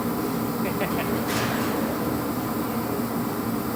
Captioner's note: laughter